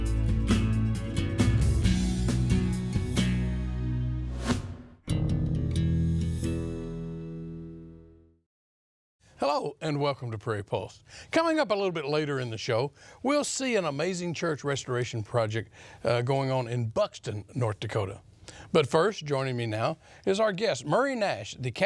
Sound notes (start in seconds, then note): 4.3 air swooshing